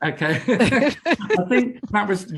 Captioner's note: both laugh